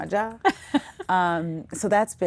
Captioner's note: laughing